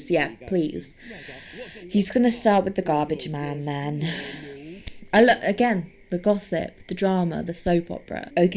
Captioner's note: sighing